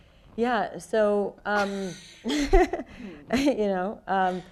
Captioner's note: laughs